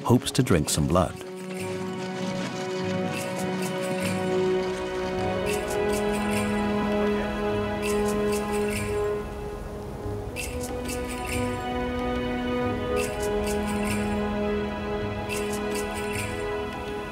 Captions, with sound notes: They are hoping to eat some meat for the first time in many weeks. And little Moseika hopes to drink some blood. (bells chiming)